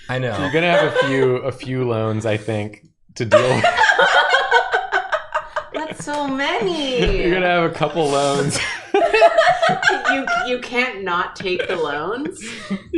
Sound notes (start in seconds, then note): 7.7 laughs